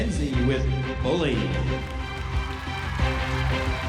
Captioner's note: crowd cheering